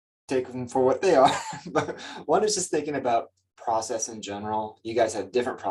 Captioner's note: chuckles